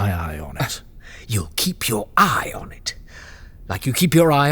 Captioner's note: incredulous